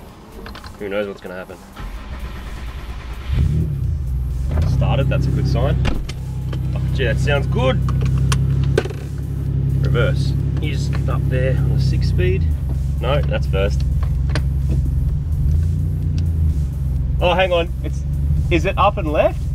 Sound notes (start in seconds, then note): 1.7 engine turns over and starts; 7.8 trim rattles